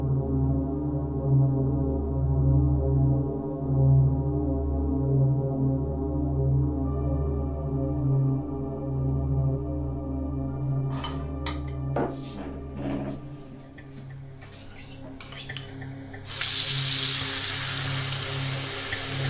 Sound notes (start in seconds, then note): 1.1 eerie dramatic music continues; 11.1 bowl clattering; 16.4 water sloshing